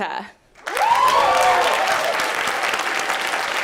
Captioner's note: applause